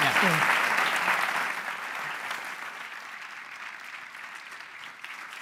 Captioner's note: applause